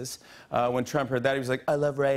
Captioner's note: As Trump